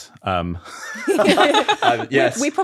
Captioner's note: all laughing